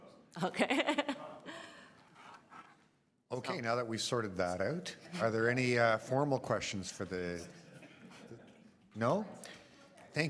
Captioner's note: laughter